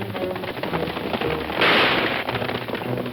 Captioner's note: gun fires; guns firing; suspenseful orchestral music